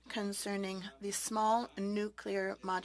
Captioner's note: speaking French